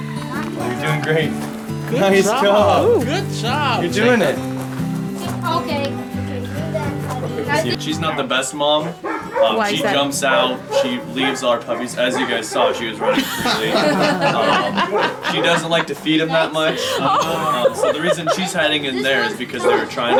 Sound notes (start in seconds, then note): 14.8 lots of laughter